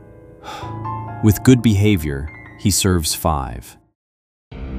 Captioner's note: sighs